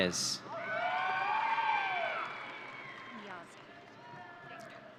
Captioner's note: audience cheering